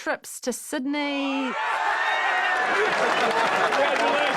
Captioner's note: crowd cheering